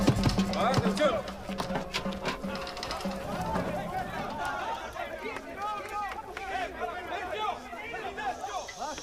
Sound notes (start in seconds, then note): 2.1 murmurs